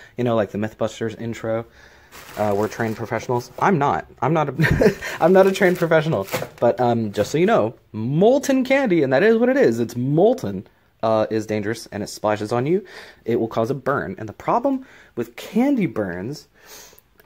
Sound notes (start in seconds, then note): 4.6 laughs